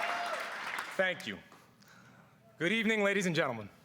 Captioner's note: cheers and applause